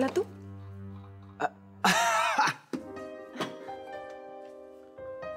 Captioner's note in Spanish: Él ríe